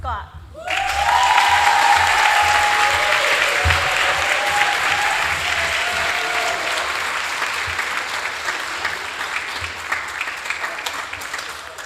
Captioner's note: applause